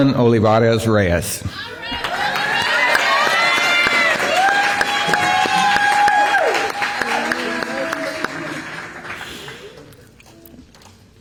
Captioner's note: applause